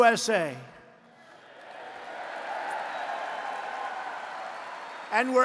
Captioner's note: applause